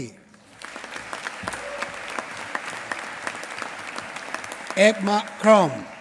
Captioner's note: applause